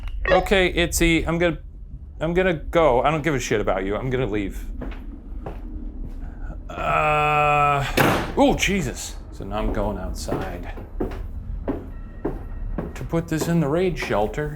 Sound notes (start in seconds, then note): 7.9 door slams